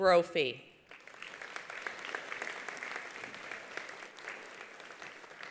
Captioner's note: attendees applauding